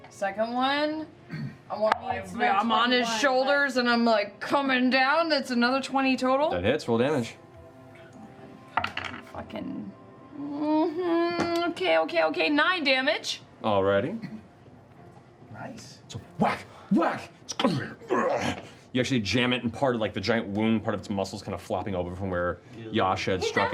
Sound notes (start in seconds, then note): 13.4 whacking; 14.4 snarl